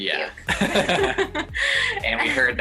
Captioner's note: both laughing